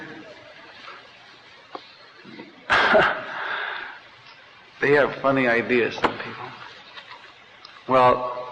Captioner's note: laughter